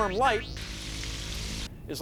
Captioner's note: sizzling